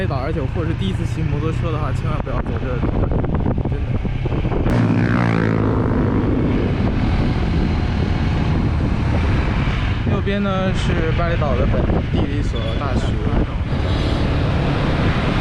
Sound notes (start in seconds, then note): 4.6 passing motorcyclists